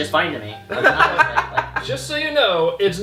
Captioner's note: laughter